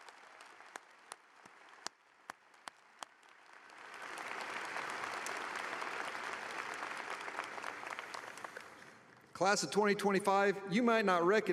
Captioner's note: applause